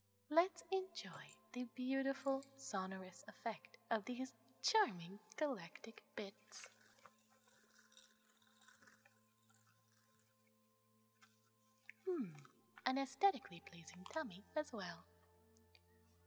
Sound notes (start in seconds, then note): 6.4 galatic tinkling